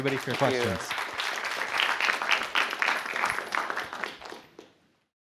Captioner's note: applause